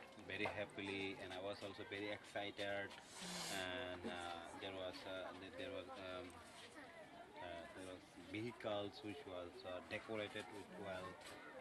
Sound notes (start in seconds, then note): 3.0 sniffles